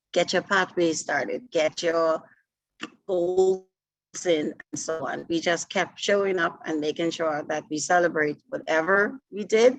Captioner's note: audio distortion